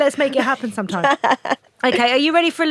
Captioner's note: Ruth laughs